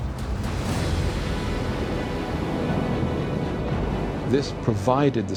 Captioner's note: explosion